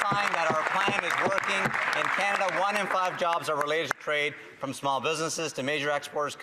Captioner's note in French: voix de l'interprète